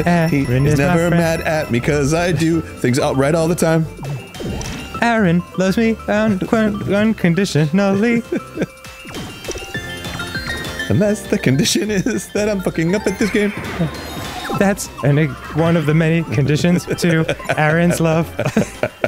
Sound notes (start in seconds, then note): 0.3 singing; 5.3 singing; 6.6 stuttering; 7.6 laughing; 11.1 singing; 12.8 laughing; 14.7 singing; 16.7 laughing